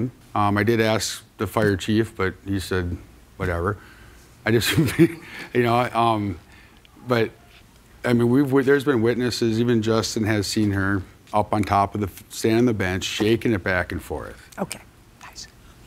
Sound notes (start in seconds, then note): 4.6 chuckles